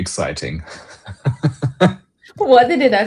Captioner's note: laughter